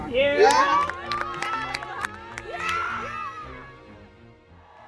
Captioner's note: cheering